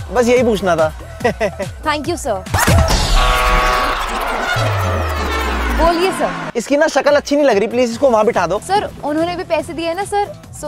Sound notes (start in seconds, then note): 1.3 laughing